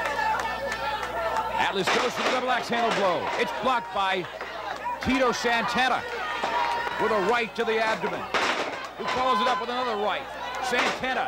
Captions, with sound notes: A headbutt, that rocked Santana. He's face first into the mat. (fans yelling supportively)